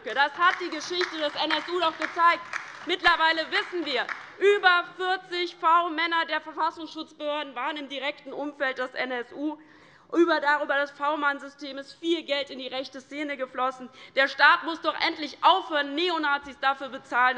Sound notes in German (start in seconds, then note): 2.6 Beifall bei der LINKEN